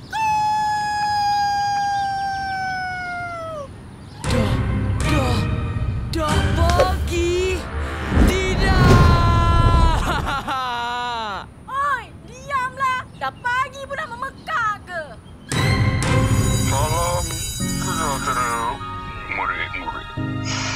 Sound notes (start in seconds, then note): 0.3 rooster crowing; 16.5 school bell ringing